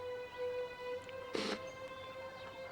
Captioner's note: sobbing